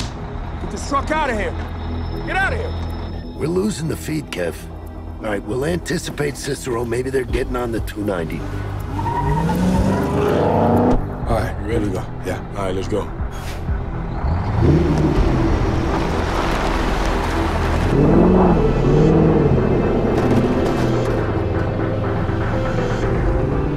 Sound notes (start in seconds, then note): 8.8 tires squealing; 13.5 eerie music